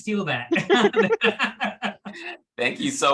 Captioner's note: all laugh